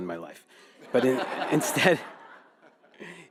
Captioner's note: audience laughing